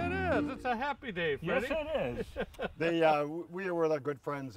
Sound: laughing

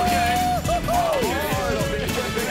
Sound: roaring; shouting; cheerful music

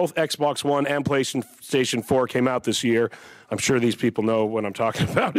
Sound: senators laugh

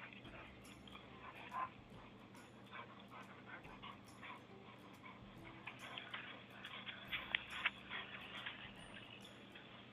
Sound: dog panting

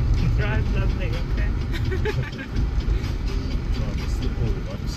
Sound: laughs

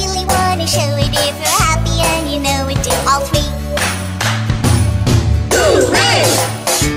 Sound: clap clap stomp stomp Hoo-Ray

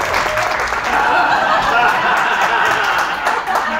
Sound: applause; laughter

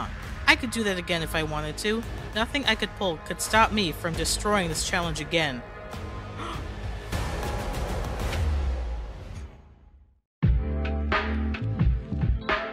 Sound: gasp

